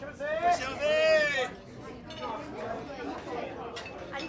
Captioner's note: shouting in native language